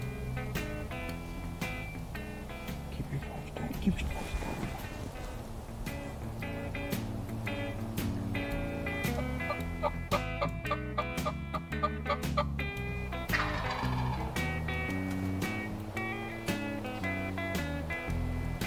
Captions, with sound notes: Keep your face turned, keep your face covered up. (upbeat music) (turkey calling) (upbeat music)